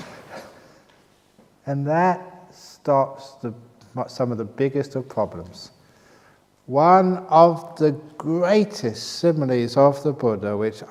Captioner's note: laughs